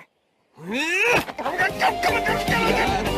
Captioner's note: angry muttering